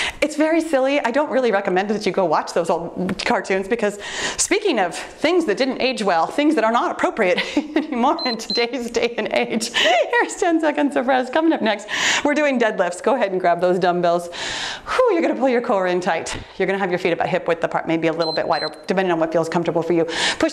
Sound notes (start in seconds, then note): 7.6 laughs; 8.1 timer beeps; 18.2 timer beeps